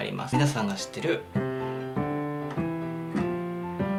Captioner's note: Italian